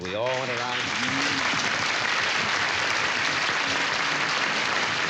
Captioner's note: applause